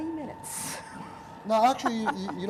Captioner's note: laughter